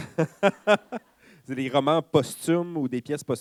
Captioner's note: laughter